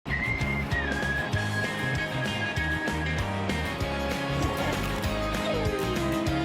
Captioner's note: whistling; upbeat music; whines